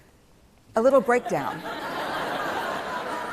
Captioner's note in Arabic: ضحك